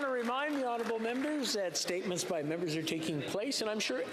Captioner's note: some Applause